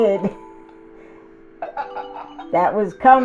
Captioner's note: interviewer laughing